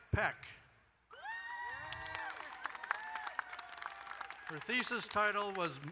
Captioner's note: crowd cheers and applauds